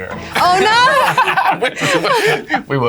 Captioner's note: laughs